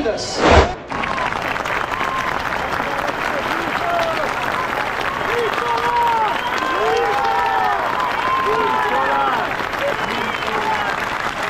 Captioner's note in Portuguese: Aplausos